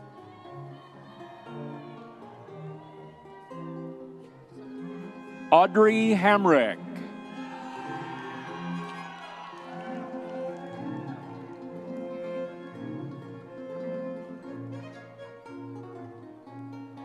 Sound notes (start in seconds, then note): 7.9 audience members cheering